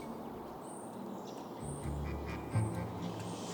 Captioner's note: wind whooshing; birds chirping